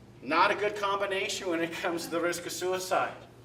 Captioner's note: laughter